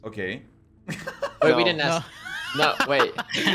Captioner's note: laughter